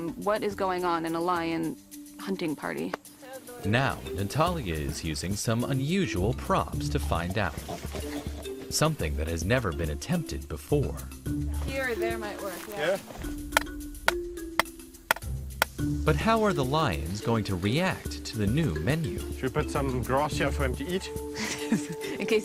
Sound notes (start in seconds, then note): 15.0 hammer tapping